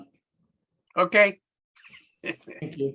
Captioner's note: laughs